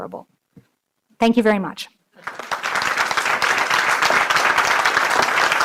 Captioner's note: audience applauding